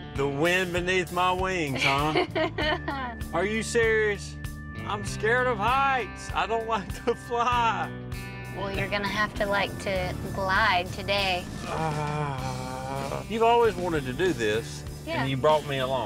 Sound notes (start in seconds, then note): 1.7 laughs